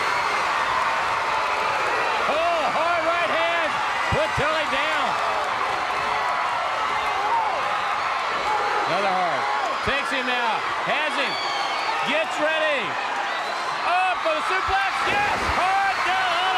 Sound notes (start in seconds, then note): 0.0 crowd cheering; 5.7 crowd cheering